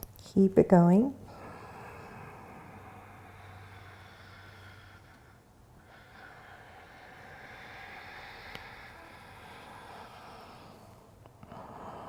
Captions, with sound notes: Keep it going. (deep breathing)